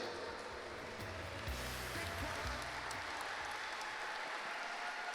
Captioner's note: applause